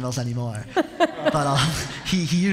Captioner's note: laughter